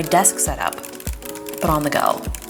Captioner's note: keyboard clicking